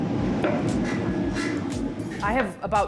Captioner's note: machines whir